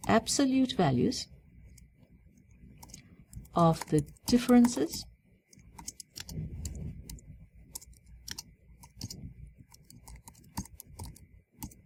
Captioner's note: pause